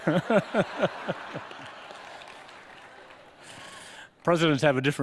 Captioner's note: laughter